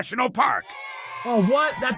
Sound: kids booing

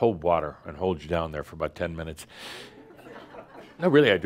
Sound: a few chuckles

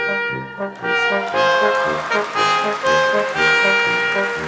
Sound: audience applauding

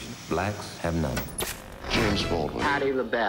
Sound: television set clicks off

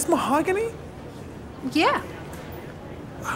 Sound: hesitantly

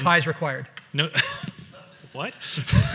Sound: laughs

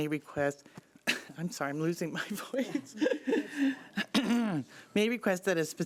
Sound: coughs

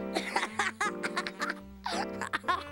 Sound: laughs

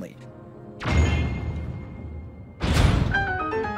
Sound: target pings; bright chiming music

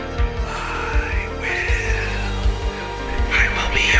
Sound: voices whispering, “I will…”

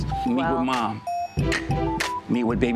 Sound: clicks

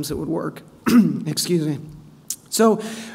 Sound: coughs

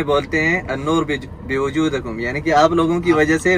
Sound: speaking Arabic

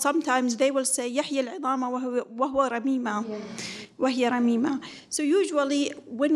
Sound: speaks in foreign language

